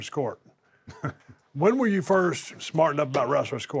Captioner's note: laugh